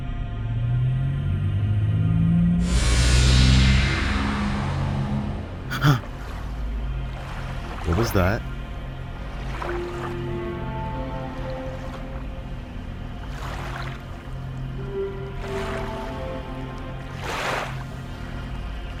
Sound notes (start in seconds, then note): 5.7 gasps